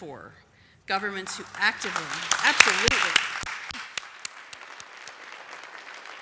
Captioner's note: applause